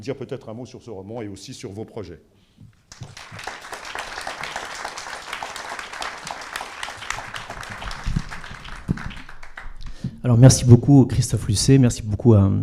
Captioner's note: applause